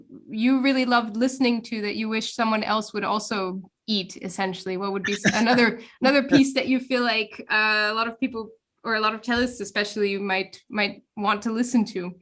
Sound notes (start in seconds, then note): 5.0 laugh